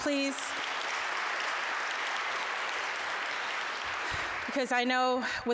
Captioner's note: applause